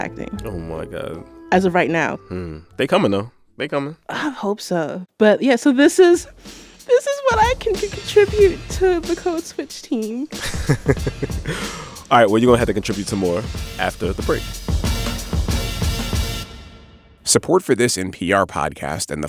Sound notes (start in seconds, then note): 10.3 laughter